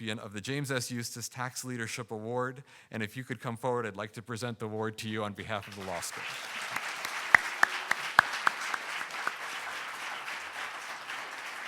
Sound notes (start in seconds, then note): 5.5 audience applauding